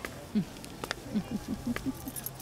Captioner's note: Woman laughing